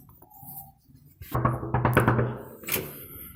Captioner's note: knocking on door